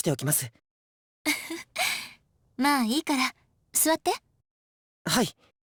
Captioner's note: chuckle